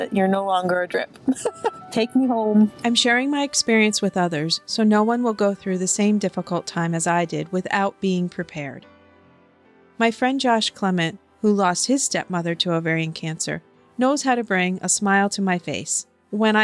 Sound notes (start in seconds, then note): 1.2 laughing; 3.3 voiceover